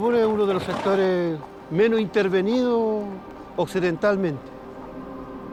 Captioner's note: horse snorts